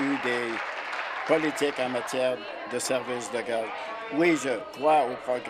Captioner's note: applause